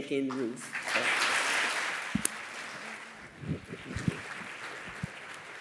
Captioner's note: applause